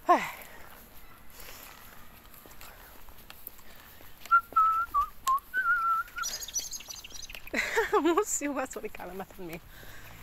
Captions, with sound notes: [whistling] Haha, the bird chirped at me.